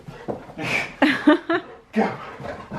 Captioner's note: laughing